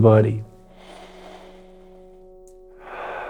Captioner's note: inhales; exhales